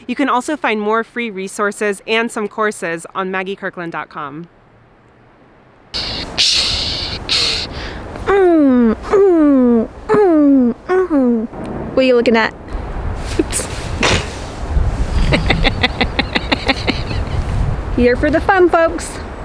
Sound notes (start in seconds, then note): 15.1 laughing